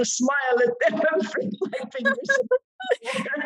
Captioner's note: laughing